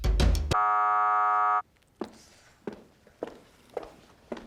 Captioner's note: error buzzes